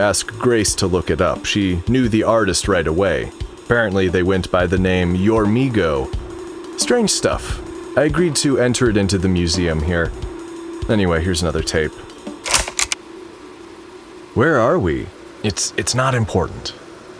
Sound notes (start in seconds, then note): 12.4 click